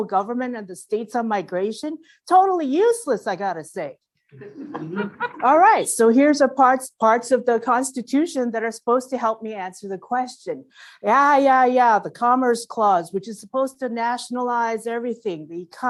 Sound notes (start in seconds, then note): 4.4 laugh